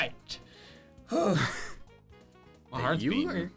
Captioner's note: sighing